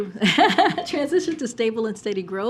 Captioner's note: laughter